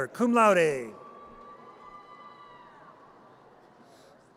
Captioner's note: audience cheers